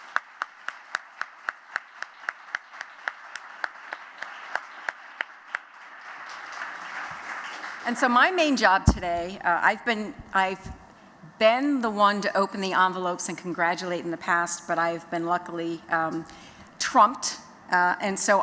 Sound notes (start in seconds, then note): 0.0 �applause�